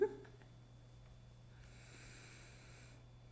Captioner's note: laughing